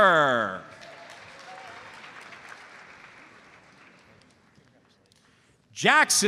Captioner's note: audience applauds